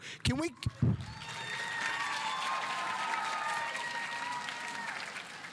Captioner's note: audience applauding